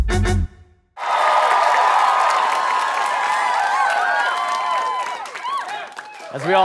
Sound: audience cheering

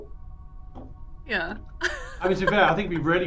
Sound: laughs

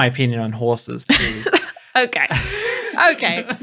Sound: laughing

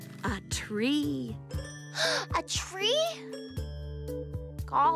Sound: gasp

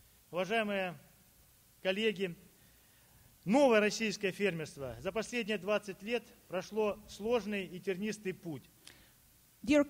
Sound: speaking Russian

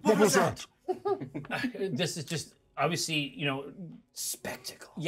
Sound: laughs

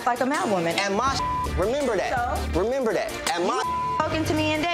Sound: beep

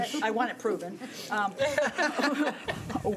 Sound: laughing

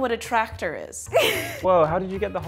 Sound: laughing

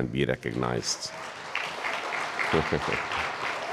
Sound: all applauding

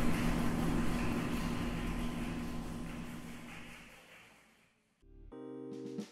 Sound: audience applause

